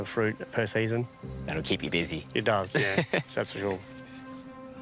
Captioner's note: chuckles